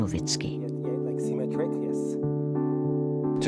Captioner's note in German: Leise Anweisungen